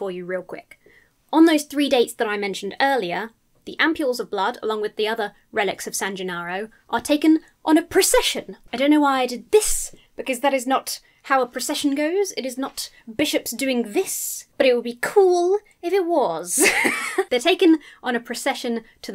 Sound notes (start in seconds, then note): 16.5 laughs